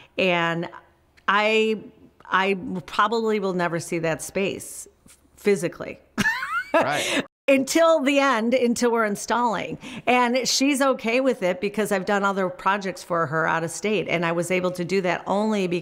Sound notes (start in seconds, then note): 6.1 laughing